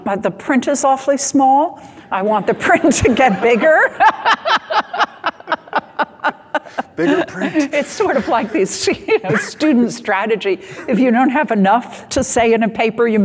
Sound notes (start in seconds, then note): 3.9 all laughing